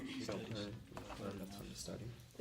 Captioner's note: students murmur